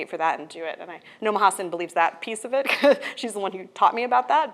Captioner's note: laughs